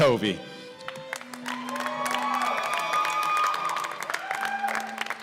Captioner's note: cheers and applause